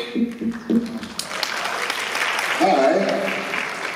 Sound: applause

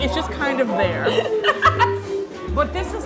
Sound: laughing

